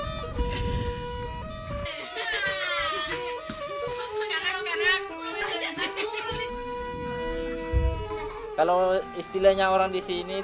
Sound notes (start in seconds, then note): 2.2 people talking in local dialect